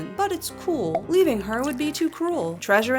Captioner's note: cork popped, drinking gulps